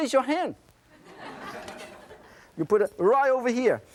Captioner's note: audience laughing